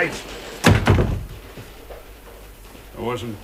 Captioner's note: door slams